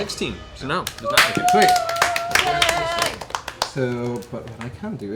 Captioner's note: cheering